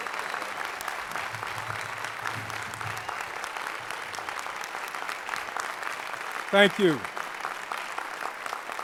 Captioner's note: applause